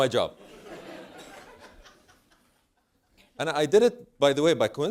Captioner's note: laugh